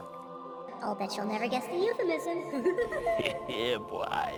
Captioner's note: Tigger laugh